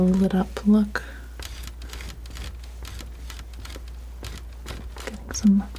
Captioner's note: scratching